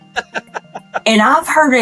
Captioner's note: laughing